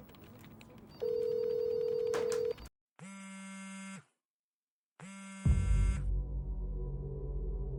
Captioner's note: phone ringing